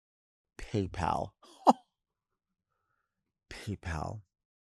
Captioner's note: chuckles